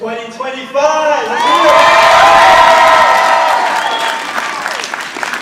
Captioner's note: audience applauding